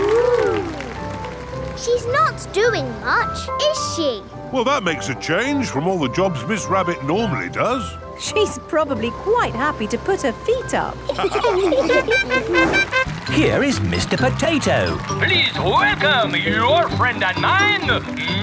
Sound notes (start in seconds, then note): 11.1 all laughing; 11.8 horn tooting